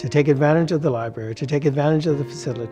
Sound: none

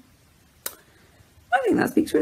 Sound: smacks lips

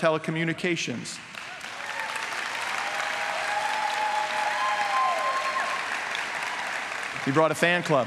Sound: applause

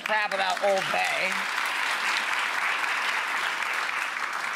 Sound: applause

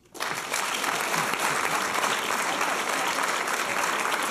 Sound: applause

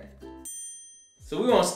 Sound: bell ring

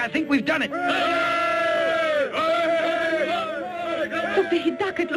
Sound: soldiers cheering

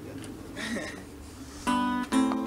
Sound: laughing; upbeat folk music

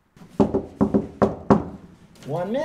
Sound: knocking on door

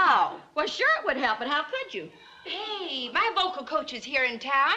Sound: none

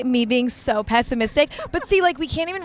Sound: Sydney laughing

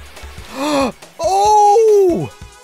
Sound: gasp

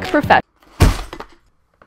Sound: crashing Sound

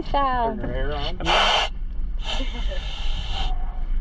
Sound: air blowing

